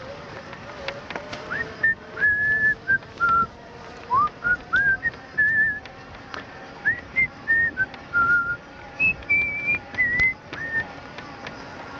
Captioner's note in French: Sifflement